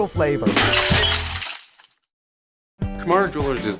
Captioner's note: glass shattering